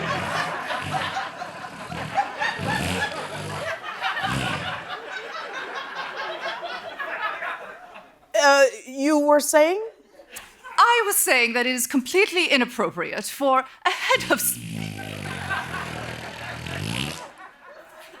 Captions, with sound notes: [laughter] [flatulence continues] Uh, you were saying? I was saying that is completely inappropriate for a head of st-- [loud flatulence]